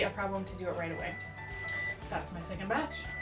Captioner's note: oven beeps